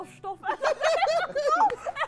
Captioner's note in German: Lachen